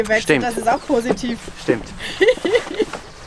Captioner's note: laughs